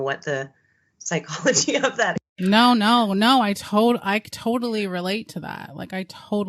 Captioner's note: laughing